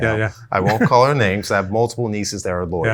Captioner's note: chuckles